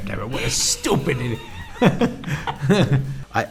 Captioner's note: both laughing